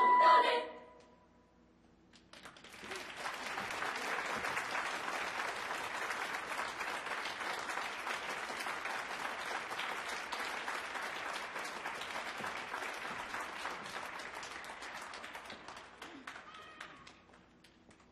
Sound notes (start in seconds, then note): 0.0 singing choral music; 4.5 applause